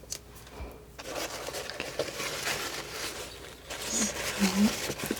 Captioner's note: scratching